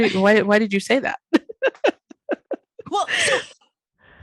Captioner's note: laughing